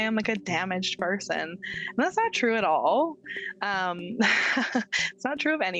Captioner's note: chuckling